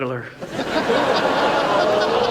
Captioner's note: audience laughs